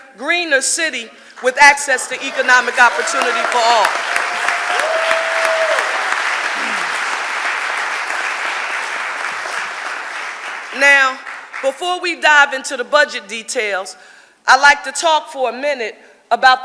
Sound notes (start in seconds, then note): 4.3 audience applauding